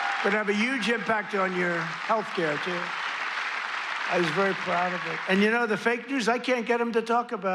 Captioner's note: applause